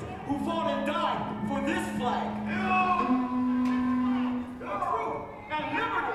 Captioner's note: shouting